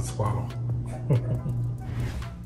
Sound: laughter

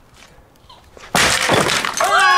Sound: smash

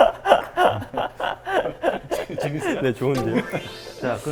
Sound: unstoppable laughter

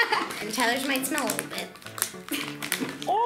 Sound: laughs

